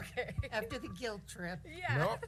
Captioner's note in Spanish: risas